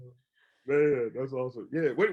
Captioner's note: laughs